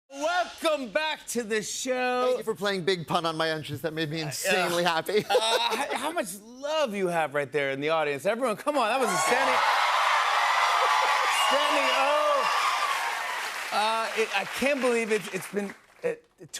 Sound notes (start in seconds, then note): 9.0 cheers and applause